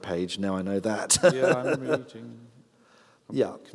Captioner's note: laughs